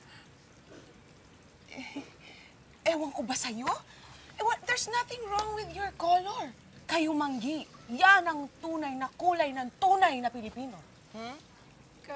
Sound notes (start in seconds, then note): 1.7 chuckles